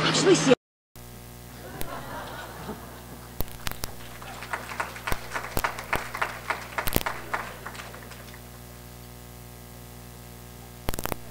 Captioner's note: applause